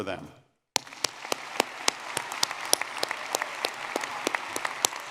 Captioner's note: audience clapping